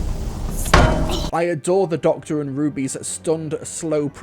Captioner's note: gong